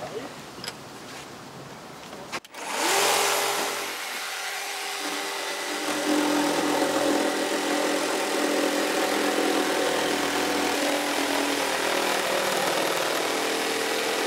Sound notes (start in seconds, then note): 3.0 machine whirring; 6.7 rattling